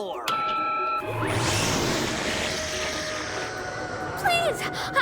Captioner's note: crackling